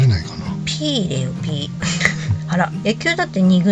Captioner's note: laughs